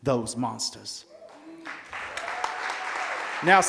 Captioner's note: applause